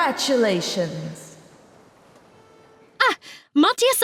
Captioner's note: audience go silent